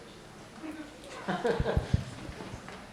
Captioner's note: laughing